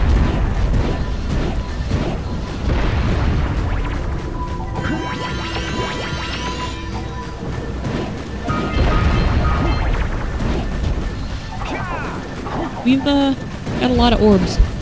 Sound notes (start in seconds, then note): none